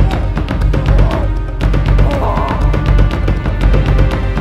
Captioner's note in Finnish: huutoa